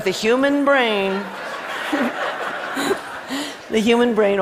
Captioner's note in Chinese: Laughter; 笑聲